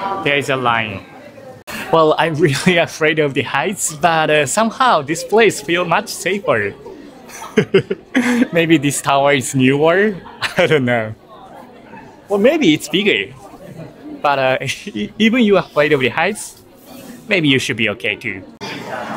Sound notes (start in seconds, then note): 7.5 laughs